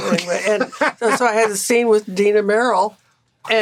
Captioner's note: Gilligan laughing